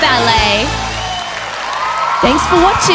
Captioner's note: audience cheering; audience clapping